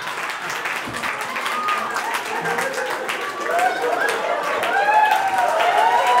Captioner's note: applause